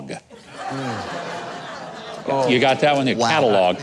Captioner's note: audience laughing